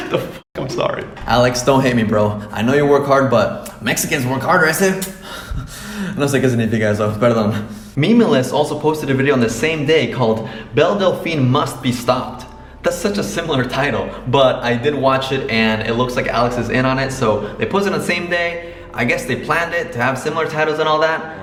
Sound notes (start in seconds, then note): 5.8 speaking spanish